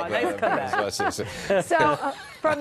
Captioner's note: laughter